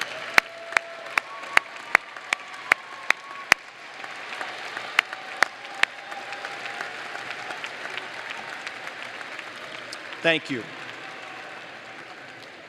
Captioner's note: applause